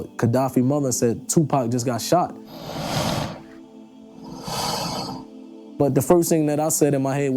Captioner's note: swooshing